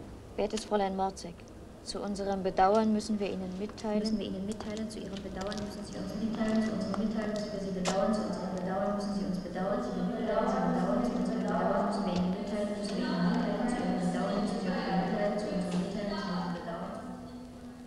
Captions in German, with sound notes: Wertes Fräulein Morzeck, zu unserem Bedauern müssen wir Ihnen mitteilen … [Echo]